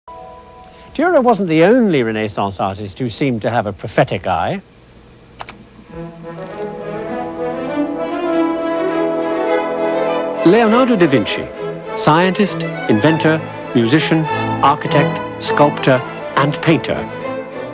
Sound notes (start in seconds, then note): 5.4 key clicking; 5.9 dramatic orchestral music; 5.9 faint electronic buzzing